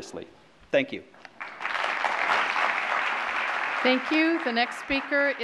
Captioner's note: applause